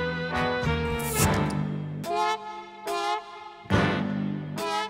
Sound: bottle cap hisses

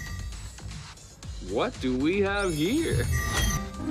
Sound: magic sound

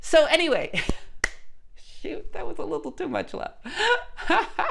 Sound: giggles and claps

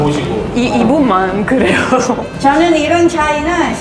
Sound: laughs

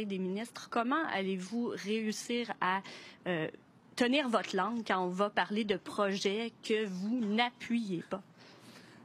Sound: speaking French

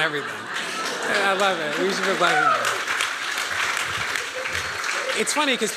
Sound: applause

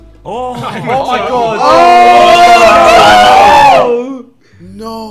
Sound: group oohing in shock

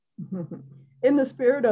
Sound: chuckles

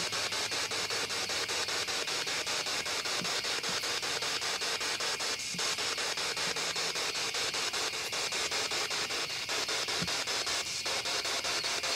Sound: static continues

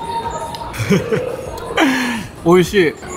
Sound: chuckles

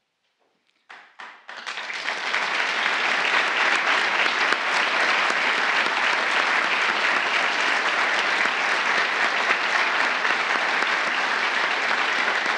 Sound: applause

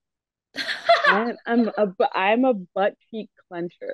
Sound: laughs

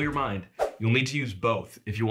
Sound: graphics whooshing

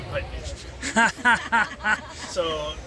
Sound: laughs

